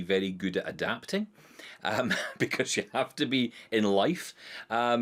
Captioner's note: chuckles